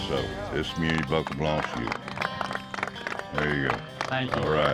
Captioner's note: cowboys clapping